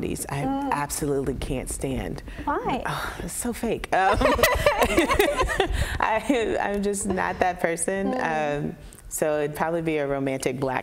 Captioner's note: laughter